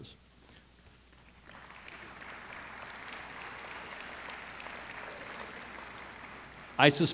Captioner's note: applause